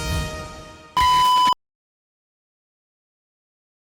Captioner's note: beep